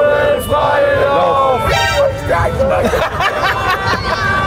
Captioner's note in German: Alarmierende Klänge, Gelächter